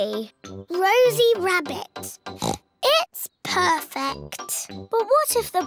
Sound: oinks

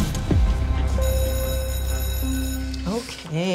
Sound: bell rings

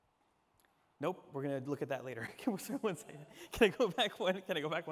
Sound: laughs

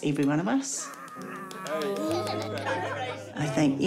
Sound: giggles; growls playfully

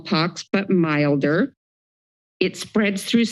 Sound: silence

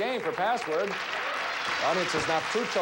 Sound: audience applauding

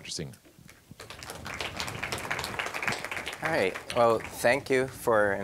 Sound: applause

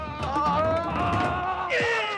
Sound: pop screaming; Parker screaming; Ishikawa grunting

